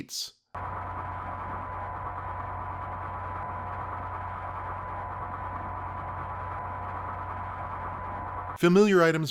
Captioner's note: static hum